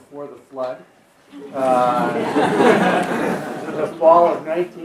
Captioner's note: laughter